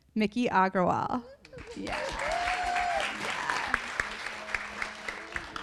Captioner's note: audience applauding